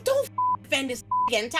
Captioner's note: beep